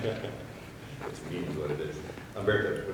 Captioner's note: chuckles